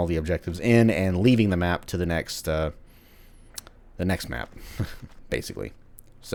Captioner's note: chuckles